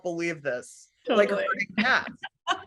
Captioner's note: laughing